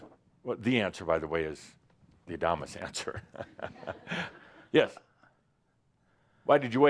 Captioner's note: Adamus chuckles